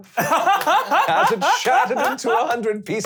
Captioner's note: laughing